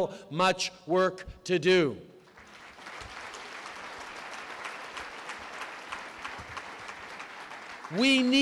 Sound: applause

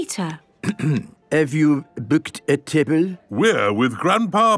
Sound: clears throat

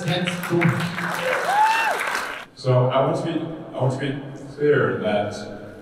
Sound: applause

